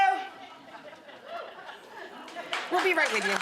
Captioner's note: audience softly laughing